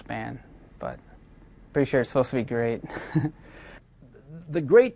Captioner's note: snickers